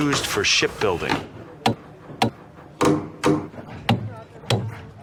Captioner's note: tools thudding